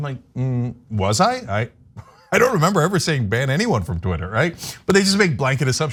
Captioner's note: laugh